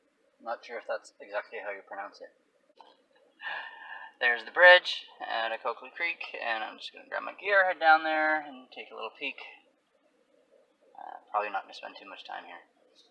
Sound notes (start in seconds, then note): none